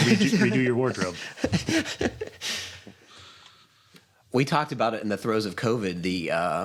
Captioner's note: laughs